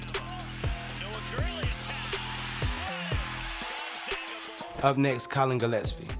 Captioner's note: commentator and crowd cheering